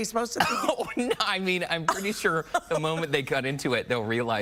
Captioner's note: laughing